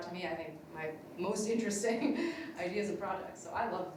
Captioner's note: laughs